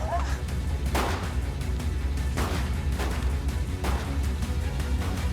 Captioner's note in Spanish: Disparos